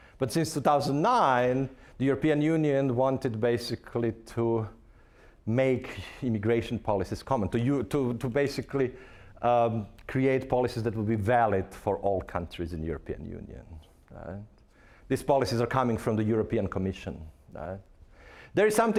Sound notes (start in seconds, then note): none